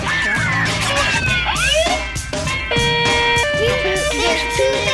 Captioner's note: different siren; siren